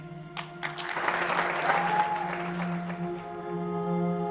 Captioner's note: crowd cheers